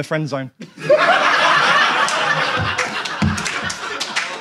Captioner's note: audience laughs